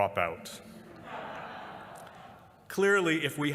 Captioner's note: laughter